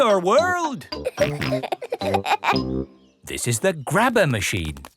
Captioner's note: peppa and george laughing